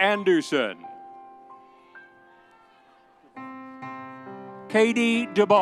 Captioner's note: audience cheering